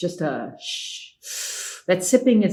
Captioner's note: exhales; inhales